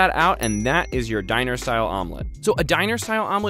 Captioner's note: dings